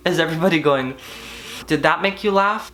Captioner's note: hissing